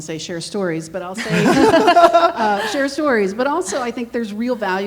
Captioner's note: everyone laughing